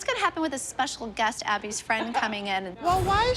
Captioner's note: laughs